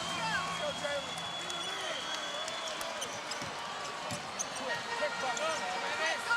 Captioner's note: whistle blows